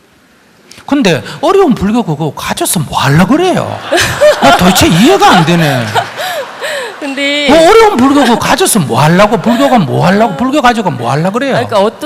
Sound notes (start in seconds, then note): 3.5 audience Laughter